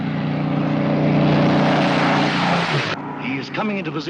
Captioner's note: aircraft roars